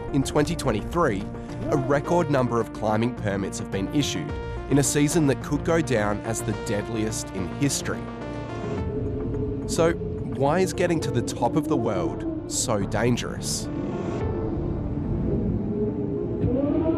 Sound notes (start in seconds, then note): 14.2 wind howling which intensifies